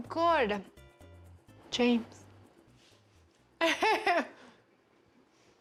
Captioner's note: laughs